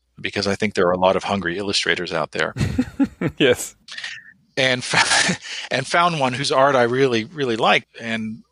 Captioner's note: laughs